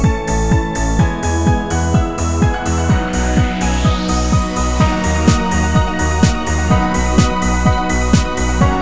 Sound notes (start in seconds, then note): 4.6 boom